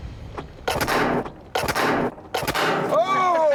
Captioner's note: loud gun fires